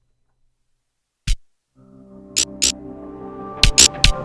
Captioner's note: crackling